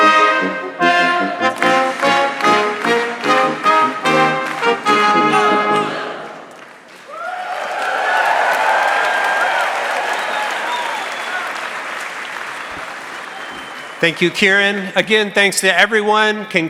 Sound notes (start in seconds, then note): 7.5 audience cheering and applauding